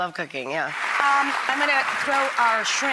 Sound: clapping enthusiastically

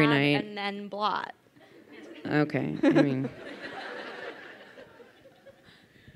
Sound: crowd laughing

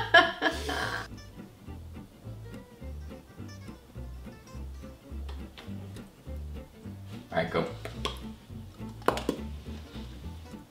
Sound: smacks lips

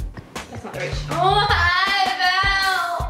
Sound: yells

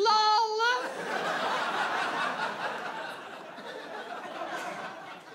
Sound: audience laughs

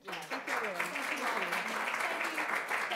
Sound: audience applauding

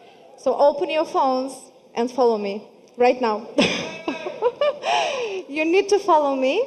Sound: laughing

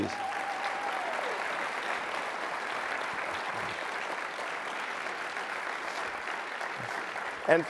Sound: cheering, applause

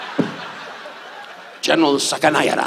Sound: audience laughs

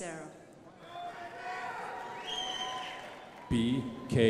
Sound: crowd applauding

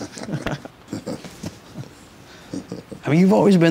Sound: laughing

